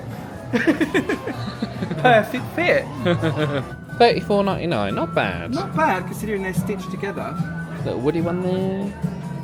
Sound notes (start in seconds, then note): 3.0 laughs; 3.1 chuckles